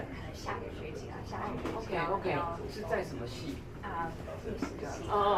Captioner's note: speaking in foreign language